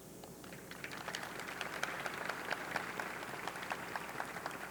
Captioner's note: audience clapping